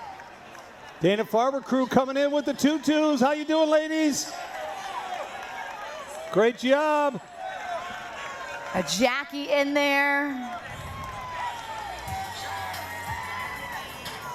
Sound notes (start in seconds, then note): 0.0 cheering; 6.3 cheering